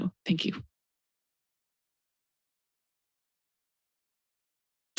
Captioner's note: silence